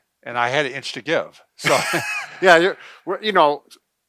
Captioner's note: laughs